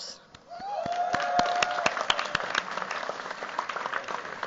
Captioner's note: cheers, applause